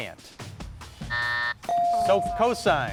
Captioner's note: buzzer beeps